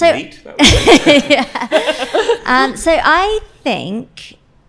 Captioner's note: panel laughs